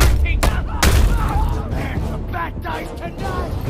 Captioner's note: characters yelling